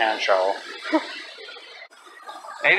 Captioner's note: laughs